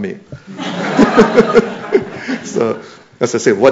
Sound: laughter

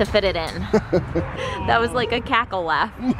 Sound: laughs; laughter

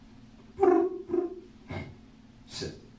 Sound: man chirps

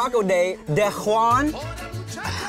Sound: laughing

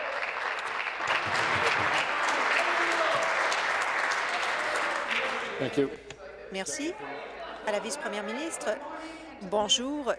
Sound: applause

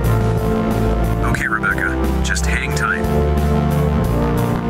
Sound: intercom

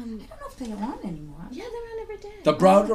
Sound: voiceover

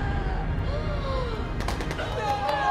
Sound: ANNIE gasps in slow motion

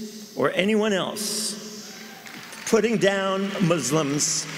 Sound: applause

